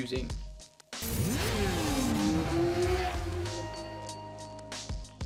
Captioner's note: motorcycle engine revs